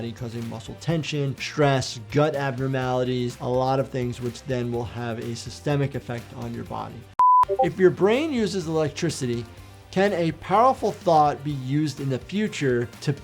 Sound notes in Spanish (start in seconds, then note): 7.2 pitido de pantalla